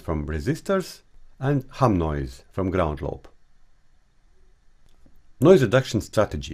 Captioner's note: AC line 60Hz and its harmonics